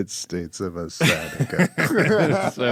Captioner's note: laughing